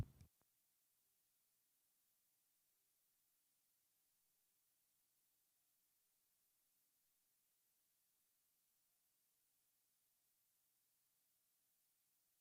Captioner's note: silence